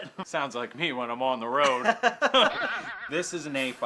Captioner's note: spring bouncing